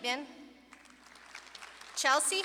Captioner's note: audience clapping